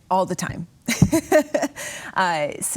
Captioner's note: chuckles